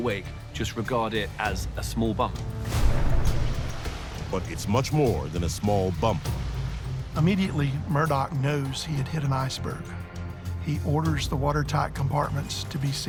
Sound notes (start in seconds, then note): 2.7 water gushing